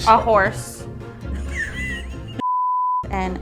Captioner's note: laughing